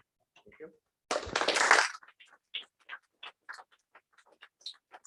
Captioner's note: applause